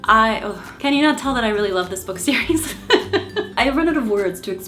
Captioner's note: laughs